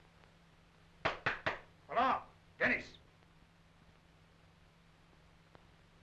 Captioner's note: knocking